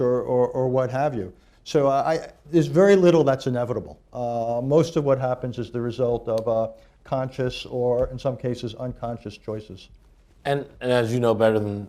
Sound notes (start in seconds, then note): none